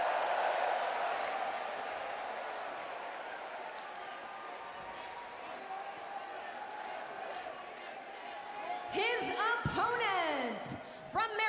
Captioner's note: cheers and applause